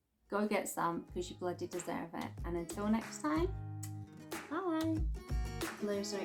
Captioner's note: kiss